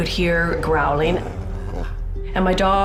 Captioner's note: dog growls